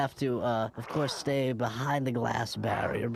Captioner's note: growling viciously